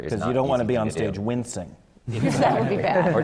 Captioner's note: laughter